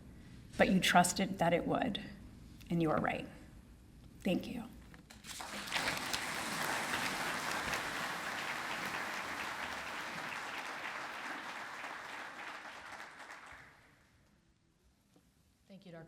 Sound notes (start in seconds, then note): 5.1 applause